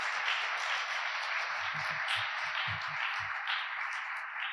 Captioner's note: audience applauding